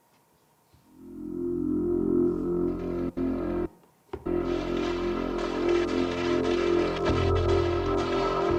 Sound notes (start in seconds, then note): 1.3 dramatic music; 5.0 guns firing